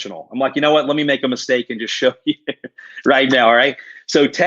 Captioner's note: laughs